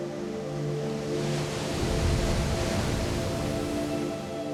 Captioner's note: waves rumbling